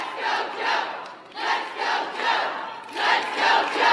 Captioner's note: applause